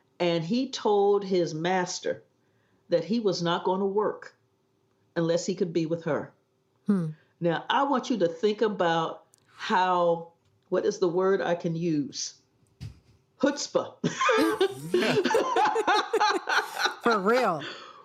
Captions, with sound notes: And he told his “master” that he was not going to work unless he could be with her. Hm. Now, I want you to think about how, what is the word I can use? Chutzpah! Yeah! [Laughter] For real!